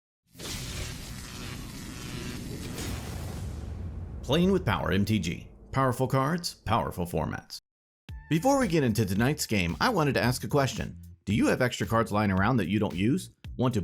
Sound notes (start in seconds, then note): 0.4 electricity crackling; 8.1 upbeat music